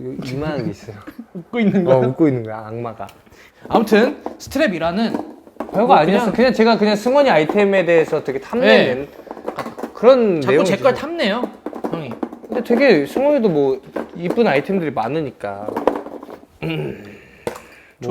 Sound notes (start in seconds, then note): 3.5 rummaging; 12.6 rustle